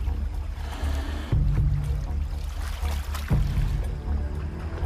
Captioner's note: lion hissing